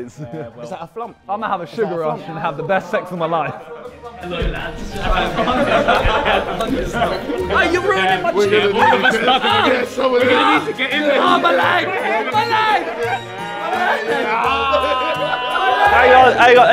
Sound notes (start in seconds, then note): 5.5 Sidemen laughing; 13.1 Sidemen yelling and laughing